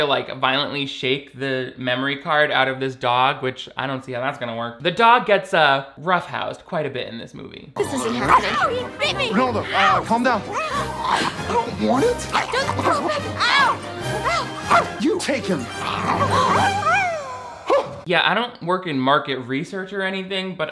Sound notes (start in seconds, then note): 15.6 dog growls and yelps